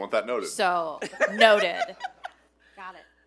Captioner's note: board members laughing